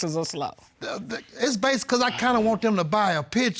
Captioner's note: stutters